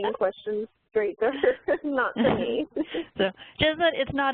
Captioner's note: laughs